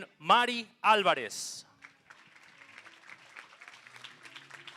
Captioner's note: applause